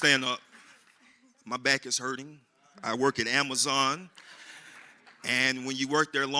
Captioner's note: applause